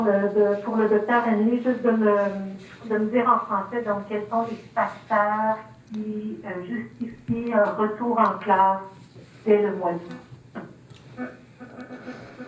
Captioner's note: speaking French